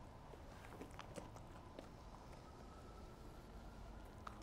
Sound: dog gnawing

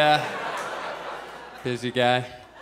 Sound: audience laughs

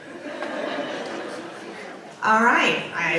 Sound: audience laughs

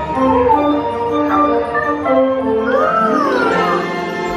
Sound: intriguing music; monkey chatters

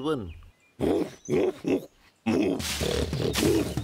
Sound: loud snorts

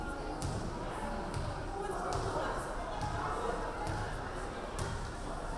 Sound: none

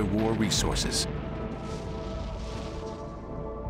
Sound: war sounds

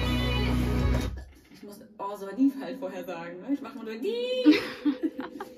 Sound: laughs

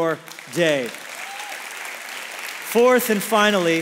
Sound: congregation applauds

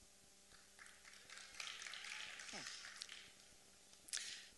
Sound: applause

